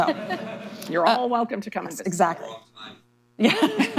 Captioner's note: laughter; laughter